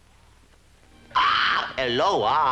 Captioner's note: squawks; Hispanic accent